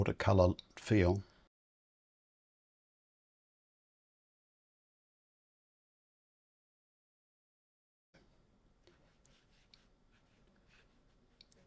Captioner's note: silence